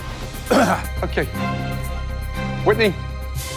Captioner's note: clears throat